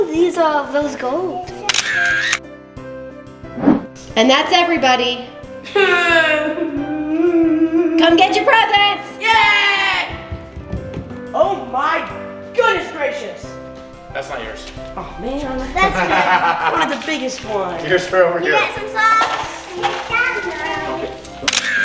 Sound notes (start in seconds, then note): 1.6 camera shutter clicks; 5.7 cries; 15.6 laughing; 21.4 camera shutter clicks